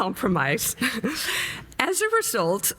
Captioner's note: chuckles